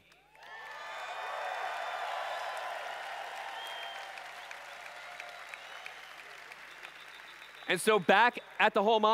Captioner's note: cheering/Applause